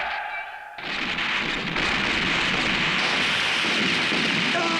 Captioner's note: guns roaring